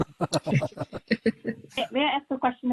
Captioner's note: laughs